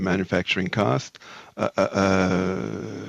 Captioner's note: speaking French